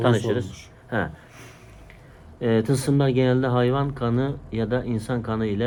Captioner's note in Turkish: homurdanır